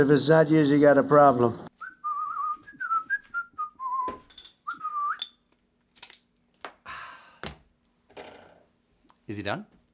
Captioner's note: whistling